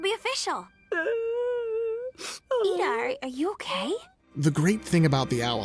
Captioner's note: whimpers